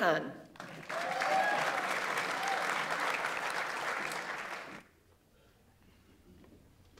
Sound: audience applauds; audience members cheer

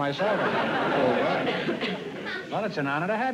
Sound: laughter

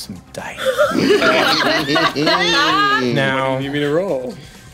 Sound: group laughing

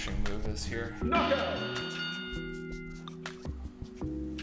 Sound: ding ding ding ding

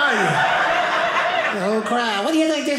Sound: audience laughing

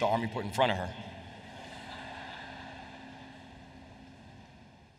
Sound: laughter

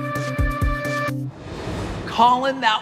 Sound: air swooshing

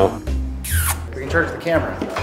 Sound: makes kissy noise

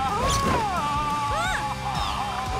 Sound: gasping

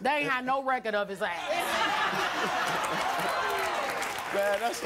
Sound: audience laughing

